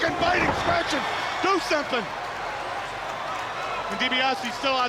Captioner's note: crowd cheering